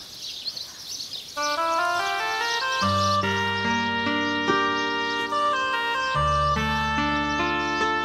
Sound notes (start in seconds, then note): 0.0 birds chirping; 1.4 somber reed music